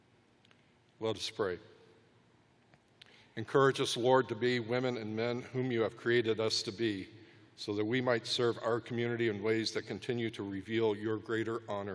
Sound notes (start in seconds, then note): none